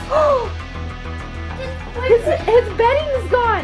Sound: gasps

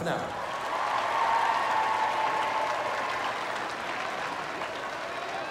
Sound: crowd cheering and applauding

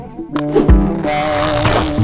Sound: air whooshing; coat unzipping

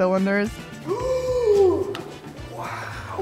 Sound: gasp

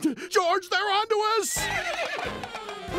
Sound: neighing

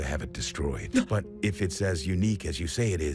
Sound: gasps

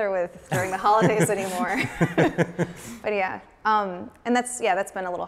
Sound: laughs

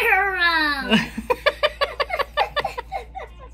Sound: lots of laughter

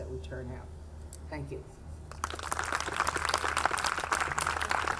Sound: audience clapping

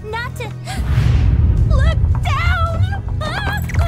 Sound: gasp

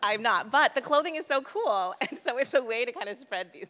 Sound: laughs

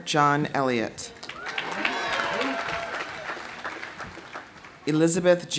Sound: audience applauding; audience cheering

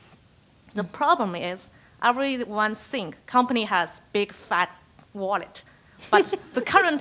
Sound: laugh

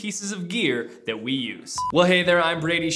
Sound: beep

